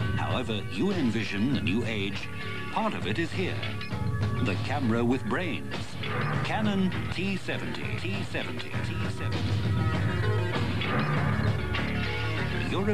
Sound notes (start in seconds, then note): 9.1 echo